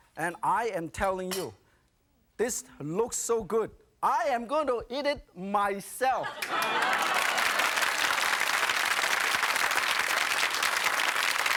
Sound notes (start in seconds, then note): 6.2 audience laughing; 8.4 audience clapping